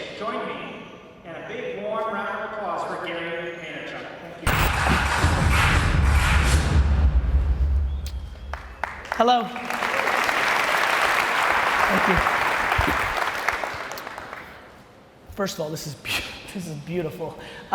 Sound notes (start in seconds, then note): 4.5 drums beat; 10.3 crowd applauds